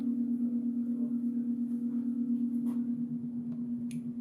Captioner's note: wall panel whirring; tone humming